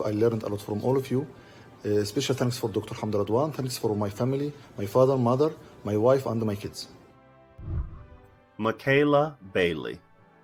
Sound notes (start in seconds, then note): 7.6 whooshing